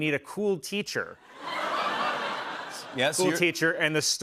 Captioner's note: laughter